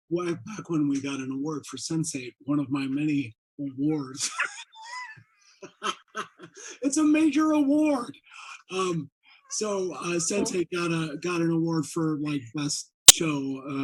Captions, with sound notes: way back when we got we got an award for Sense8, one of my many awards. (laughing) It's a major award! So, Sense8 got an award for, like, best show